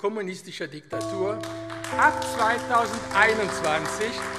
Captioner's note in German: Beifall AfD